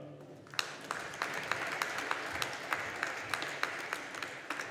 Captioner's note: audience applauding